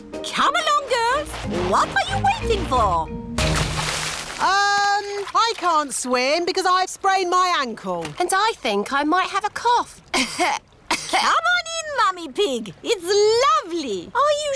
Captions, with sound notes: Come along, girls! What are you waiting for? Erm... I can't swim because I've sprained my ankle. And I think I might have a cough. (COUGHS) Come on, in Mummy Pig! It's lovely!